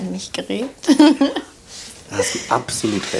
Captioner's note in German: Kichern